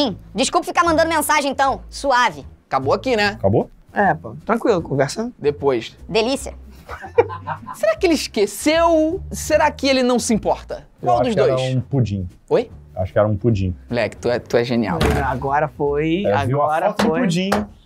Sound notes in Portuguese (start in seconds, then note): 6.8 risadas